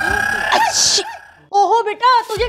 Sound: sneezes

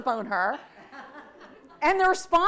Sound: audience laughs

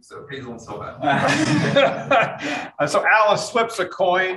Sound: room laughs

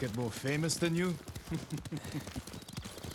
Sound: laughs

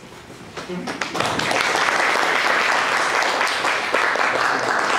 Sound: audience applauds

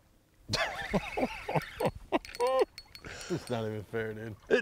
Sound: excited laughing

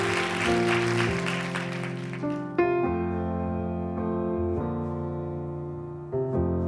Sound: applause

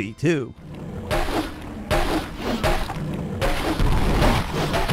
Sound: monster growling

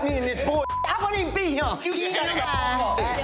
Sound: beep

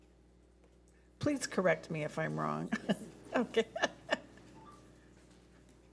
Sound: laughs

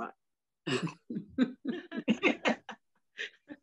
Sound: laughing

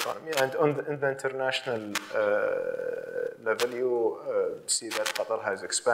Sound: mic clicking

